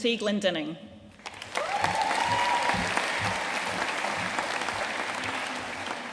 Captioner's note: audience cheering and applauding